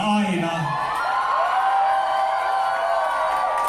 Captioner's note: applause